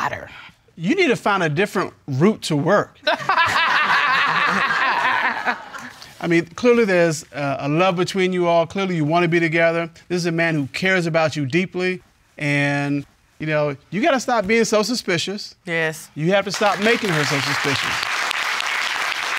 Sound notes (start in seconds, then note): 3.1 all laughing